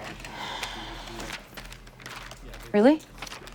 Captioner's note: sighs